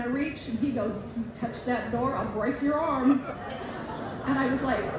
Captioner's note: laughter